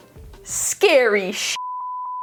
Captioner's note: beep